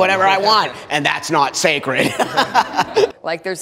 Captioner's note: all laughing